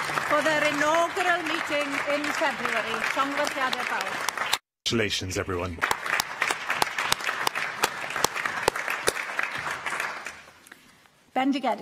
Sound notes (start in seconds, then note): 3.4 applause